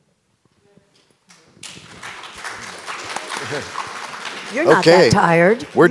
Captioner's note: audience applauds